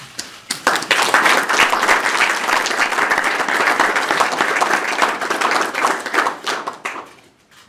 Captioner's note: applause